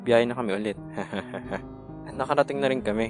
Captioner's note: chuckles